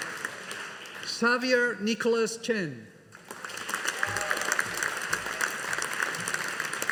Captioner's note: audience applauding